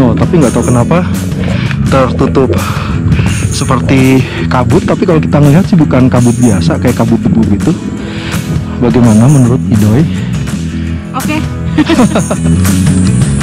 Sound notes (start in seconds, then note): 11.7 laugh